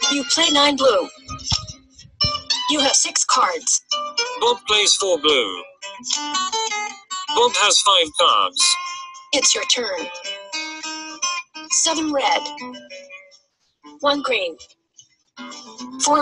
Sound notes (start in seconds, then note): 4.6 voiceover; 9.5 voiceover